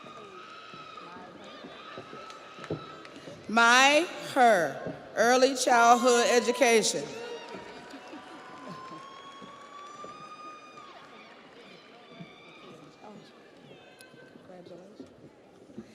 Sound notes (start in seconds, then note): 0.0 audience applauds; 0.0 audience cheers; 13.1 audience applauds; 13.1 audience cheers